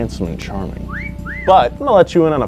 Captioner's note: wolf whistle